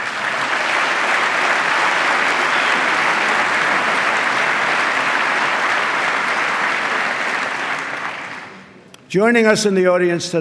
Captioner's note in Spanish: aplauso